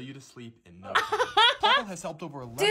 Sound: laughs

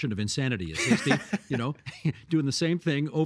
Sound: laughing

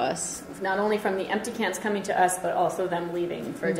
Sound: voiceover

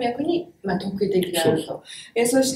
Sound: speaks in Japanese

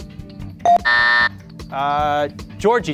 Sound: beep; buzzer

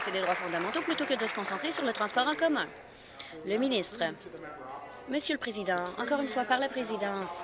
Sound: applause

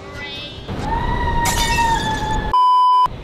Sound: high pitch scream

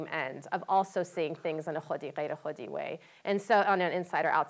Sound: non-english speech

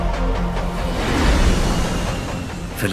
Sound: roaring

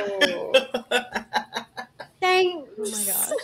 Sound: laughter continues

